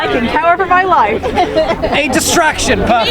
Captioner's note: audience group laughs